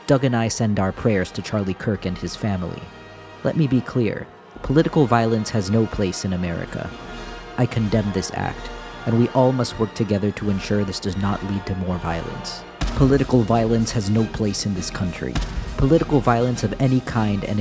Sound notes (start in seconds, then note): 12.8 cannon booming